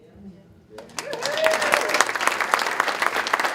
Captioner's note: applause